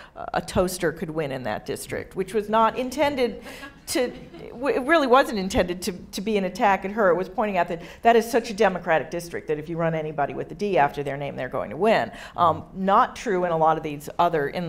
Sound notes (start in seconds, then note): 2.0 audience laughing